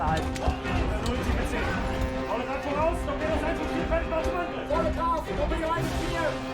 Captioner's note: man speaking in foreign language; suspenseful music